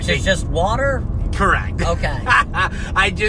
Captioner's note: laughs